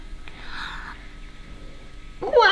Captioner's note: gasps